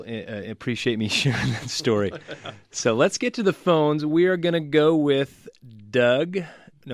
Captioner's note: both laugh